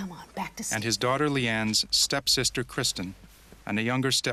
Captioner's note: voiceover